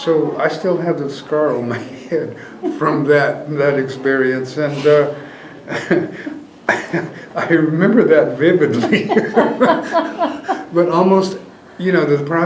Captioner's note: laughter